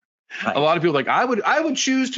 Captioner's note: laughing